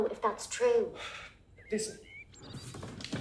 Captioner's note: sighs